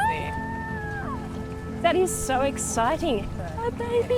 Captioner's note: squeals